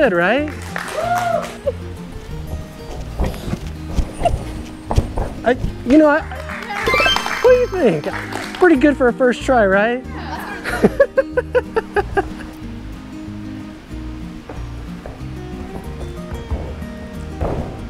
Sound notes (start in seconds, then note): 0.4 audience applauding; 2.2 footsteps thudding; 6.8 graphic tinkling; 10.3 laughs; 14.3 footsteps thudding